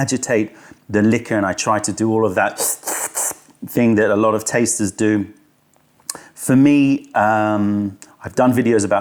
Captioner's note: slurping sound